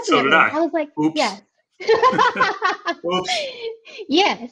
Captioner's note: laughing